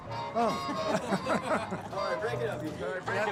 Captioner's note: group laughs